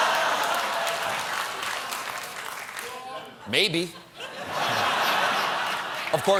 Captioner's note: laughter